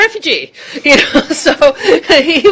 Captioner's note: laughter